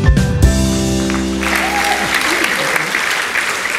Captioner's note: applause